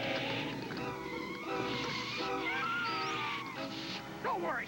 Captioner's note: screams